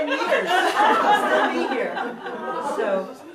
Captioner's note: audience laughing